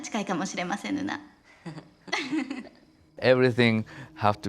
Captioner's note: laughter